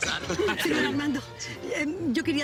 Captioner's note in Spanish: Risas